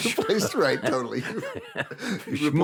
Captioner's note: both laughing